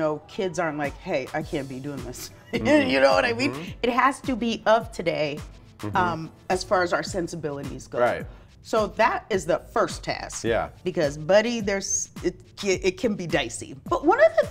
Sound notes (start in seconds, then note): 2.2 laughs